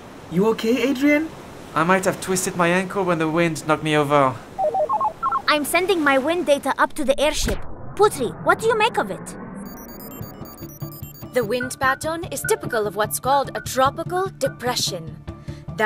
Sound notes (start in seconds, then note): 4.6 goggles beep; 9.5 computer beeps